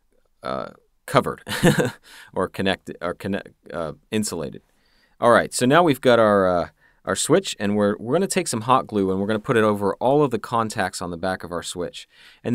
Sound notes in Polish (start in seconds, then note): 1.4 śmiech